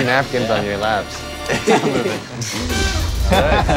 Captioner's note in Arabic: ضحك